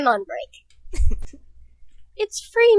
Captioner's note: chuckles